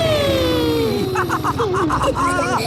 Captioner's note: laughs